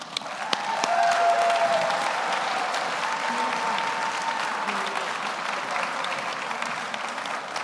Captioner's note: audience applauds; audience cheers